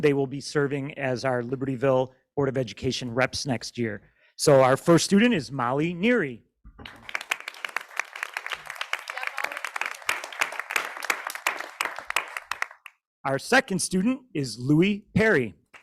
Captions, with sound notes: They will be serving as our Libertyville board of education reps next year. So our first student is Molly Neri. (audience clapping) Our second student is Louie Perry.